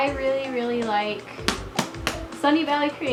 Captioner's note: claps